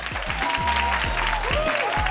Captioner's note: audience applauds; upbeat music